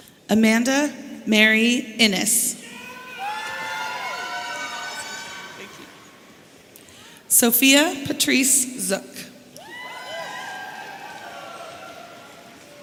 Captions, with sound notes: Amanda Mary Innes. (audience cheering) Sofia Patrice. (audience cheering)